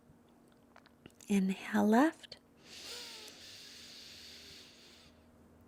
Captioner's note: inhales deeply